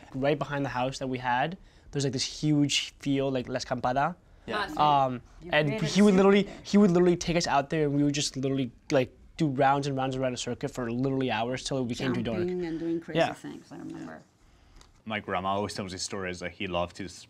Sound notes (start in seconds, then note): 3.4 speaks in Spanish